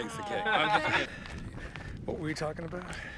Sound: hiker laughing

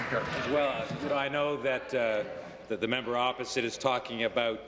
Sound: applause

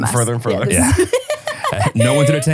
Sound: laughs

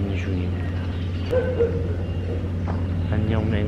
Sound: barking

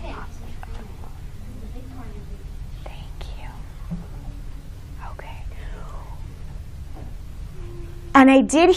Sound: whispering

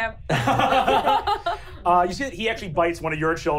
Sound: laughing

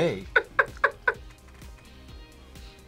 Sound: laughs

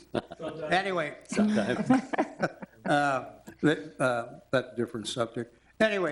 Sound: all laughing; laughs

